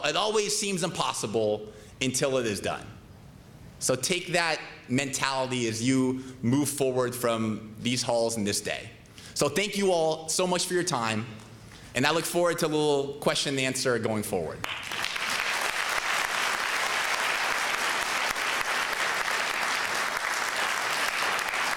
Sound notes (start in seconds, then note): 14.6 applause